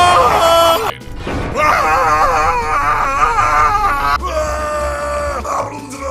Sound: screams

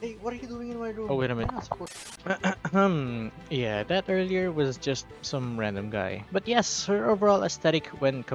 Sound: ahem

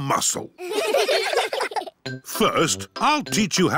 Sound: all giggling

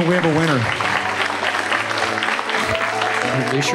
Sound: applause

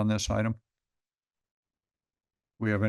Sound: pause

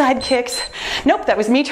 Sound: timer beeps

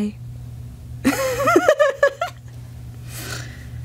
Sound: laughs

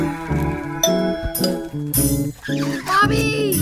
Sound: doorbell dinging

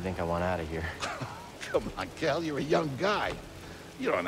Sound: laughs

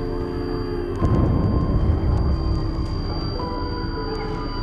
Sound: loud rumbling

